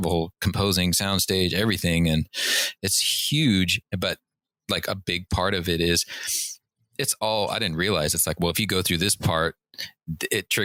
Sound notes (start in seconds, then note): none